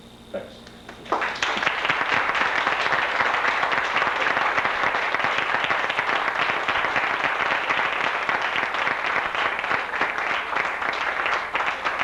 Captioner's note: applause